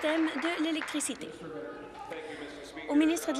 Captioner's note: applause